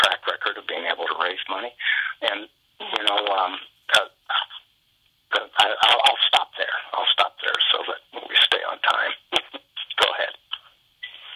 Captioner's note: laughter